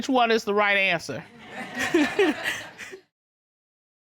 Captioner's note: laughter